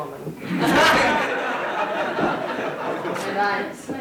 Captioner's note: audience laughing